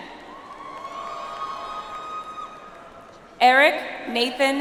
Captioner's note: audience applauds